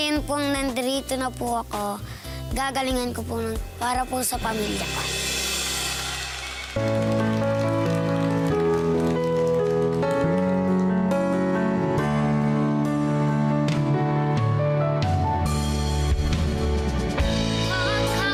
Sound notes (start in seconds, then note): 6.1 applause; 18.0 singing